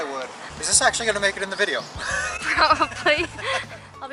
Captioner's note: laughter